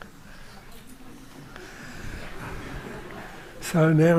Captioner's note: laughter